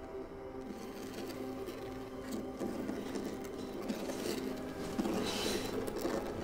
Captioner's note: soft dramatic music; scraping